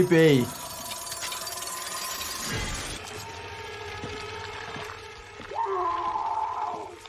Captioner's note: mechanical clattering; squelching, screaming